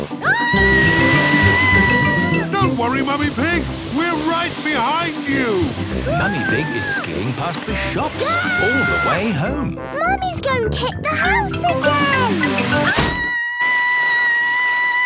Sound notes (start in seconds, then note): 0.2 screaming; 12.9 Mummy Pig screaming